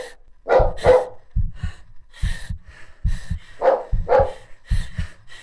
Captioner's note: pounding heartbeat. heavy breathing